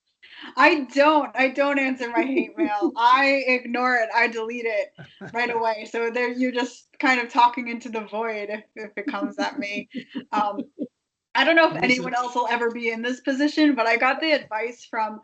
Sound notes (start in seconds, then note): 2.2 laughing